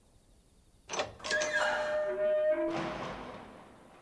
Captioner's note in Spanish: puerta abriéndose